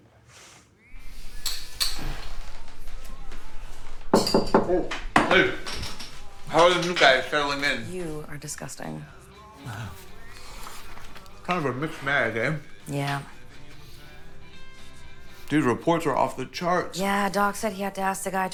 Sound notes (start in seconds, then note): 1.0 spoon rattling; 4.0 knocking